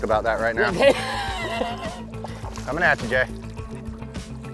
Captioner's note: laughs